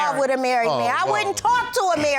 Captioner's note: scoffs